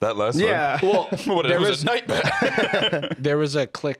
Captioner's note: laughs